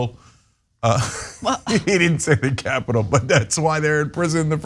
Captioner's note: laugh